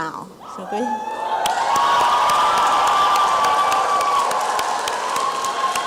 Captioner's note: applause and cheering